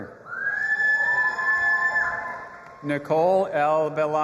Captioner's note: audience applauding and cheering